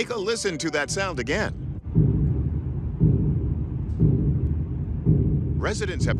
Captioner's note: rhythmic deep thumping